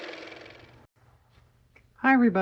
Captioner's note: car motor